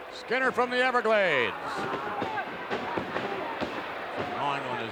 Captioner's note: feet thudding